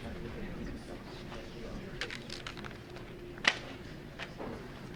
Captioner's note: light chattering